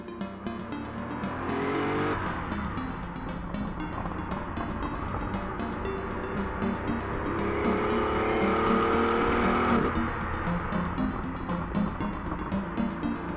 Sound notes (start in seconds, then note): 0.3 upbeat music; 7.9 throttle opening up